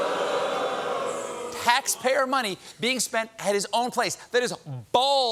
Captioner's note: booing